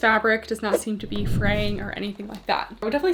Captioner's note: screen whooshing